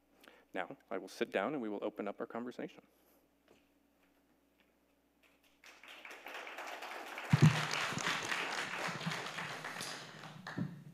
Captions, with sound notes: Now I will sit down and we will open up our conversation. (all clapping)